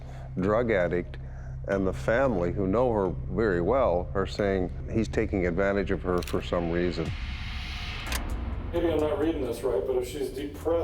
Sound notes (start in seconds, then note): 8.1 button clicks